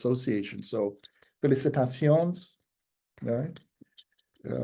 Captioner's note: speaks in Spanish